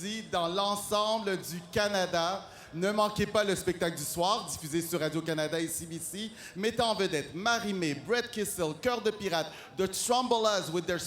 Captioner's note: speaking french